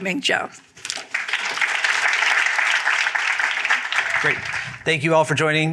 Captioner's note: applause